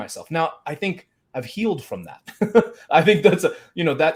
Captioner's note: laughs